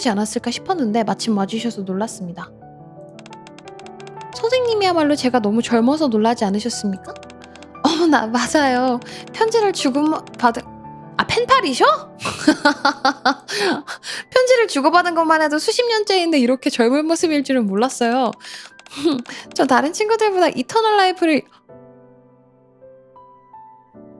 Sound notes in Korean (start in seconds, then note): 12.2 웃음